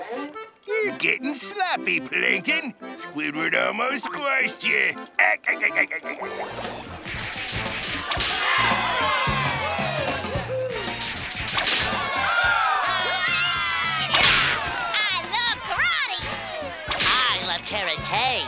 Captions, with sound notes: You're getting sloppy, Plankton. Squidward almost squashed ya. [laughing] [cheering] Hi-yah! I love karate. I love carate'.